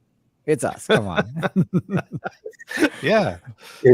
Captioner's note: laughing